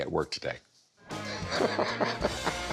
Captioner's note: chuckling